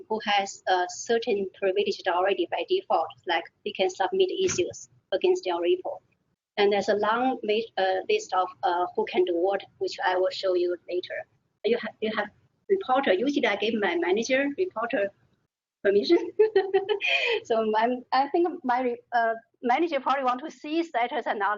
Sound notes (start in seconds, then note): 16.1 laughing